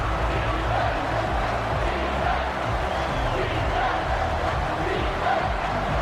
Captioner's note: crowd Noises